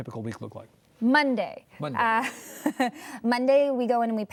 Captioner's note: laughs